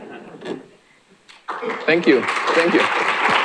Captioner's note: applause